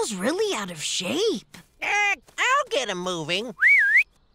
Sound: squawking; whistling

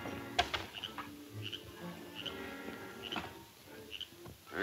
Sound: frog croaking; suspenseful music

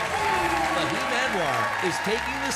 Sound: race car zooms

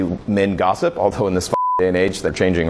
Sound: beep

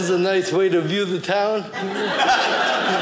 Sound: audience laughing

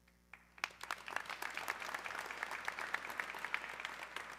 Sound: audience clapping

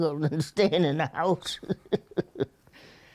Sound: laughter

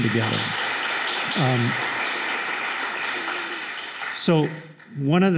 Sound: applause

